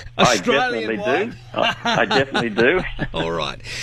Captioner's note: chuckles; laughs